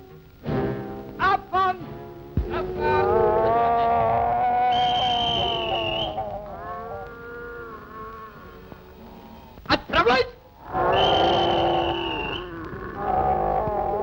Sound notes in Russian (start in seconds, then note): 4.7 звуки паровозного гудка и свистка; 10.9 звук свистка; 12.2 звуки крупного рогатого скота